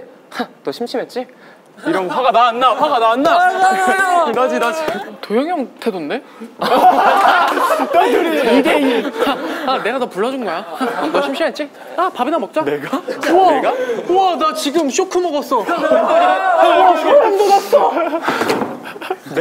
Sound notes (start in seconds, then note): 3.3 crying; 6.5 laughing